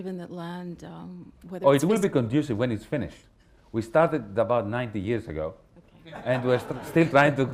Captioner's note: laughter